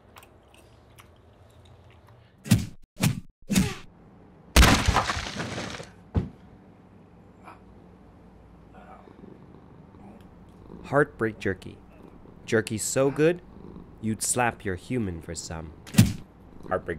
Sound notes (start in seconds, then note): 3.5 kung Fu slap; 4.5 crash!